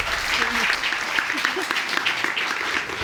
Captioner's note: audience applauds